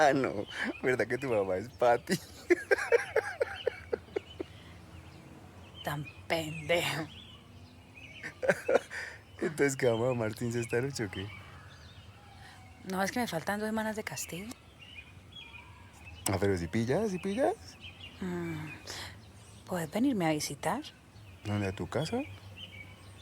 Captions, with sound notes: No of course not, your mom is really Patty. [laughter] What an asshole. [chuckling] Let's go to Martyn's tonight. I'm still grounded for two more weeks. You see? You can come visit me. Go to your house?